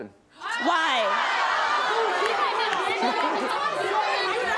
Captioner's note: audience outrage